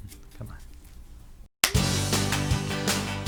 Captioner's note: clapping